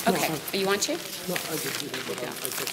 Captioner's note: mutters